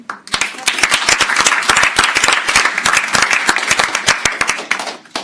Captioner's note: crowd applauds